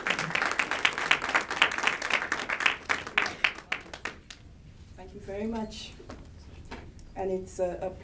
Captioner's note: applause